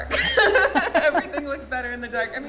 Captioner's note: laughs